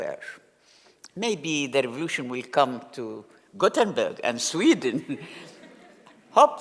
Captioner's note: laugh